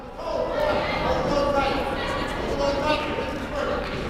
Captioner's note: crowd murmuring